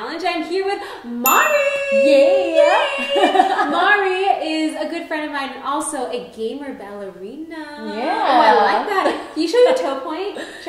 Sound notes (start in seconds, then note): 2.9 laughing